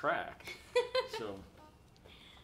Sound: laughing

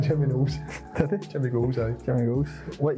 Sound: laughs

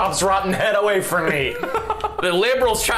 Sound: laughing

